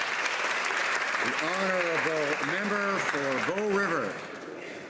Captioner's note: speaking alternate language